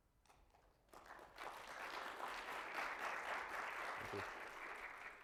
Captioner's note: audience clapping